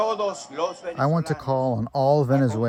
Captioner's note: through translator